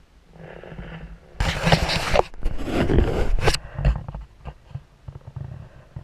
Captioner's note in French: GRINCEMENT DE PENTURE DE GoPro